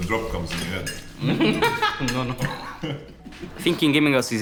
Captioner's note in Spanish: Risas